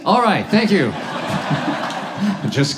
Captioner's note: audience laughs